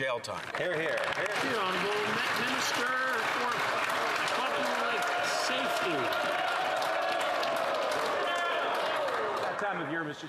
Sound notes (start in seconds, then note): 3.6 some Applause